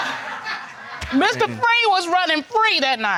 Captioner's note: laughing in audience